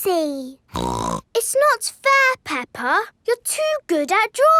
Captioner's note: snorts